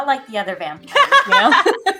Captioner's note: laughes